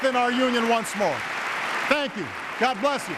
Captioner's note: applause